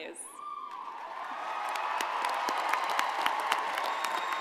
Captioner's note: crowd applauding